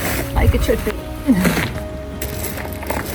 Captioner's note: laughs